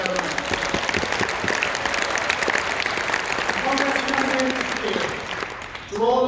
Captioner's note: applause